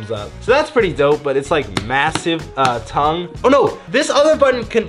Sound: hand taps

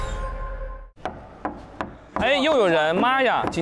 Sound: knocking

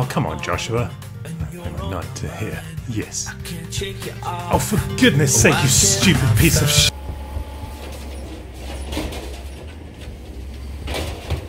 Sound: garbage truck sounds

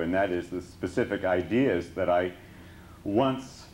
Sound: none

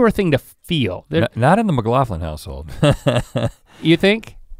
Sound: chuckles

